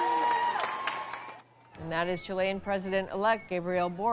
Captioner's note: applause